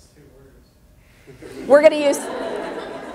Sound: audience laughter

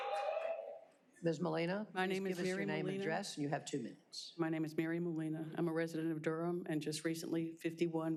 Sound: applause

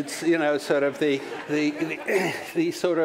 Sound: laughter

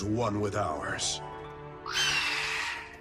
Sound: happy squawk

